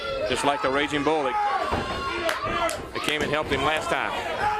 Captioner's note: crowd chatter